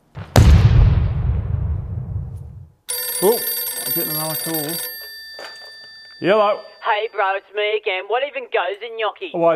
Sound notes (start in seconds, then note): 0.1 boom